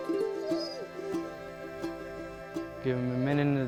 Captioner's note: dog whimpers